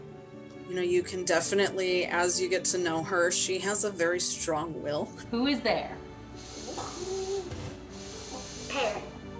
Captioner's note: laugh